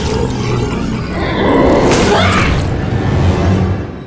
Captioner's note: Sounds of Ragatha dying